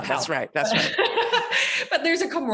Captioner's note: laughs